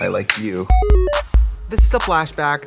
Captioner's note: Katya laughs; bright electronic music